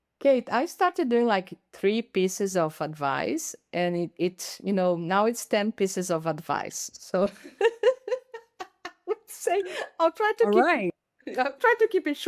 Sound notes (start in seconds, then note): 7.2 laughing